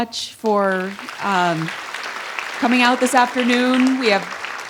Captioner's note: audience applauds